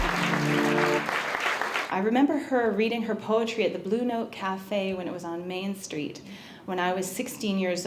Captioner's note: applause